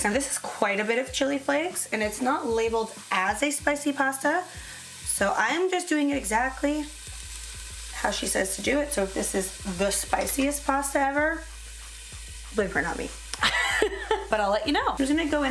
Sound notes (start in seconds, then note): 13.4 laughs